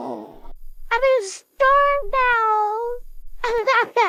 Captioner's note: crying; sobbing